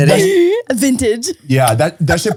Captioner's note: laughs